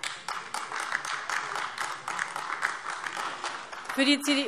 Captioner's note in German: Beifall AfD